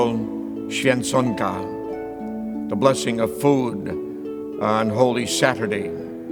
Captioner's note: speaks Polish word